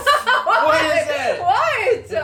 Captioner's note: laughs